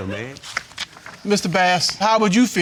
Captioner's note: laughs